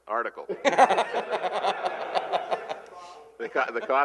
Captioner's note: laughter